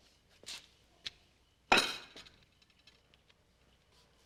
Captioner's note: slams down plate